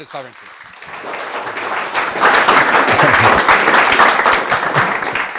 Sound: audience applauds

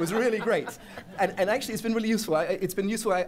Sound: laughter

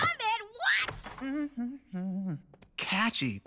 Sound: door opening; Hitch humming

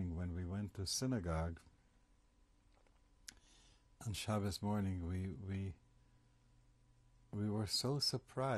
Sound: pauses for 3 seconds

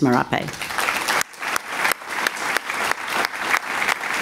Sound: applause

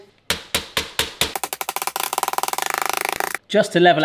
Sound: rolling pin thudding

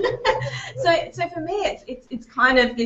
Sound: laughing

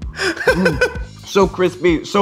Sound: laughs

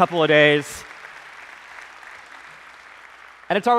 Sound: applause

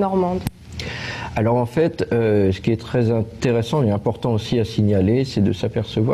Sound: speaks in a foreign language

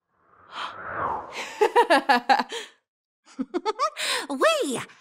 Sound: laughing

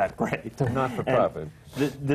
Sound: laughs

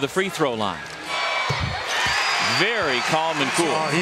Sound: crowd cheering

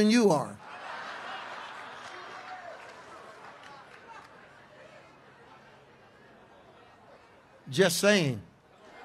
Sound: congregation laughs

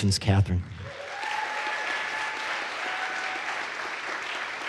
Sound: audience applauds

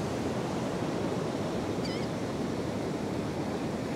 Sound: A Gull calling in the distance

